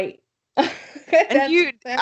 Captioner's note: laughs